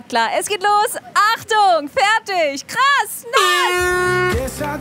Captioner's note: Lautes Tröten